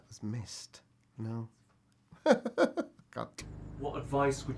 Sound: laughs

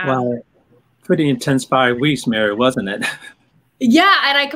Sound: laughing

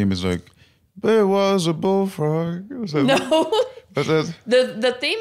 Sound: laughs

